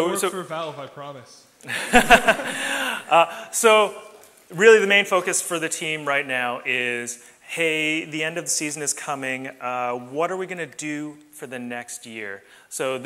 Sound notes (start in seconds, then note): 1.7 laughs